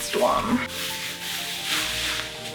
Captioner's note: rustle of silk fabric